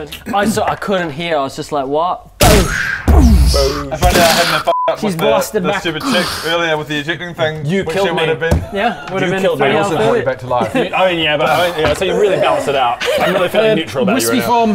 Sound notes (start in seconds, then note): 2.4 boosh; 3.0 booosch